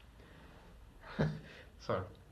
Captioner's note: laughs